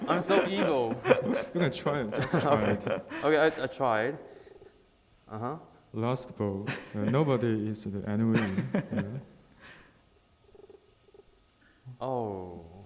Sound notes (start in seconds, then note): 0.1 laughing; 4.2 text beeping; 8.9 laughing; 10.5 text beeping